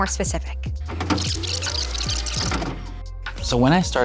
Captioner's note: videotape rewinding; videotape plays